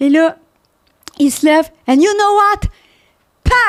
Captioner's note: in french